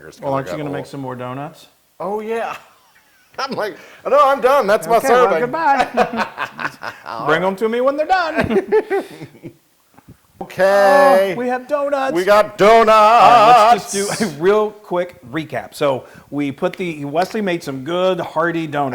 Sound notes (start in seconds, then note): 4.8 laugh